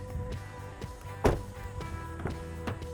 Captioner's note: door thuds